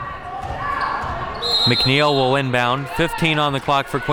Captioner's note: whistle blows